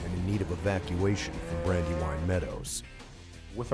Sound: voiceover

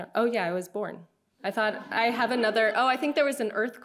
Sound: audience giggling

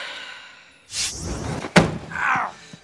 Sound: sighs

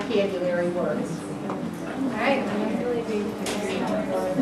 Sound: chatter

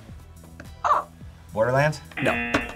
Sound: buzzer; buzzer barks

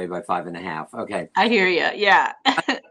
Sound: laughter

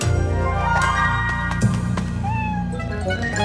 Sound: meows

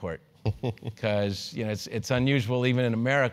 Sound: laugh

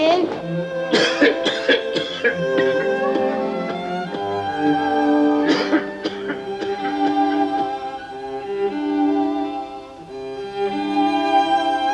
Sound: coughing

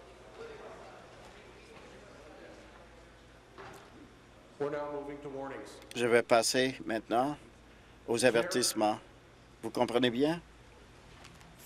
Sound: crowd Noise

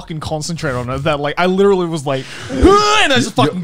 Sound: grunts

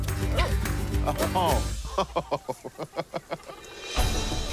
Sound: laughing

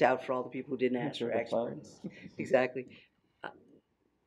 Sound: laughing

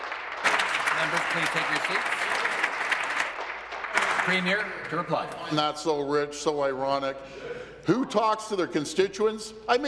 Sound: applause

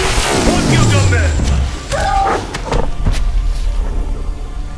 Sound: chukwalla squeals

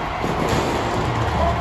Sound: screaming + broadway girls playing

